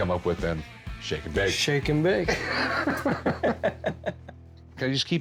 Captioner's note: laughs